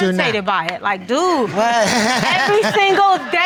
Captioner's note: audience laughing